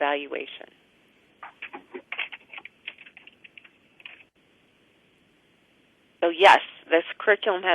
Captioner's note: pause